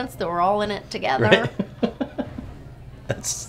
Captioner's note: laughs